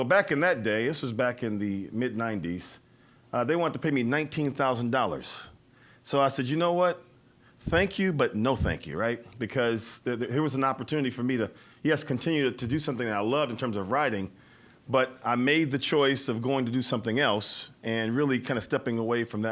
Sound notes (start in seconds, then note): none